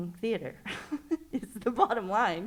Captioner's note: laughs